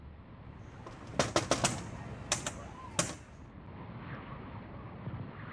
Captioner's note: glass banging